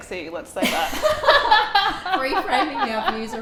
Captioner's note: both laughing